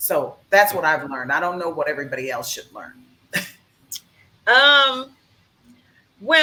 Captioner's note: chuckles